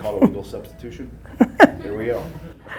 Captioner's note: laughing